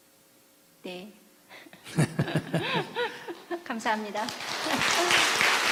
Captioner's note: /Questioner Laughter